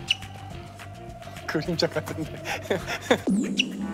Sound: haha

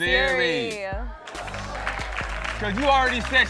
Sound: audience applauds

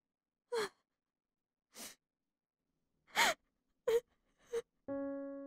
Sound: Jess sobs

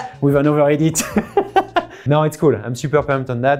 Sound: laughing

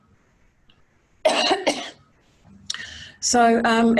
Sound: coughs

